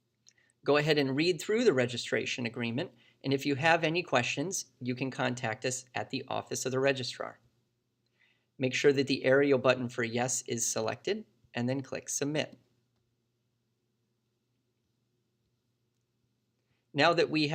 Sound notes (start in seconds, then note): 12.9 click